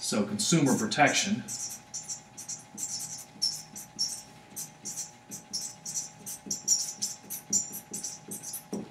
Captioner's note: writing